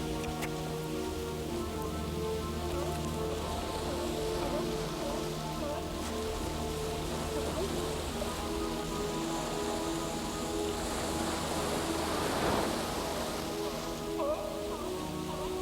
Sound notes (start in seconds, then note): 3.6 ocean whooshing; 5.7 seals grunting